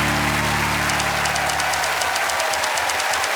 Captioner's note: typewriter keys clicking